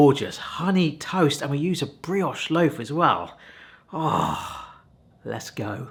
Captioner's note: groans